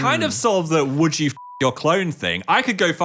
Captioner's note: beep